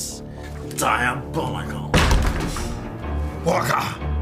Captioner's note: thud